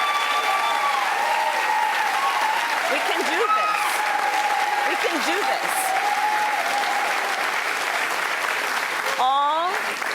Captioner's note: cheers and applause